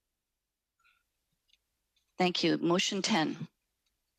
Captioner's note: speaking French